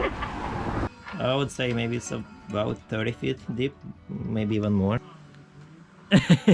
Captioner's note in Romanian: Râsete